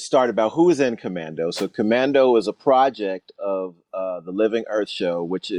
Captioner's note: whooshing sound